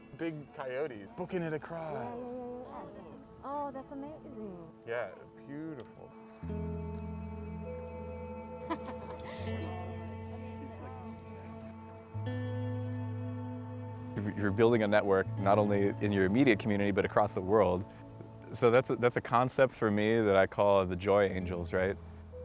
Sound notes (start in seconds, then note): 8.6 laughter